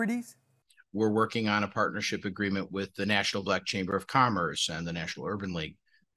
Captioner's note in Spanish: HABLA EN INGLéS